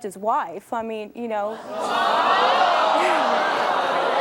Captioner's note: audience jeering